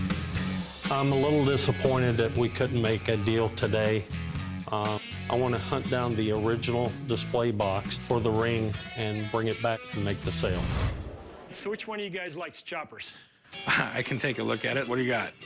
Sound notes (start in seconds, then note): 13.5 laughs